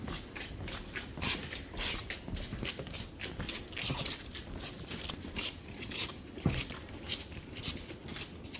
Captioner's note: sound of squeaking flipflops continues